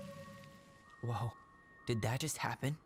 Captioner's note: none